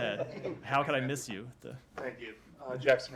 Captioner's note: laughter